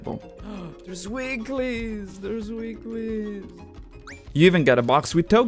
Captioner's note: gasps